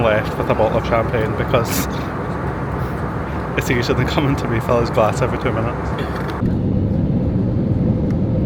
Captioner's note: laughs